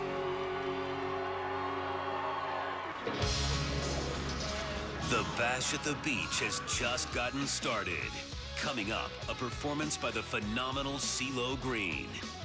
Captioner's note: cheers and applause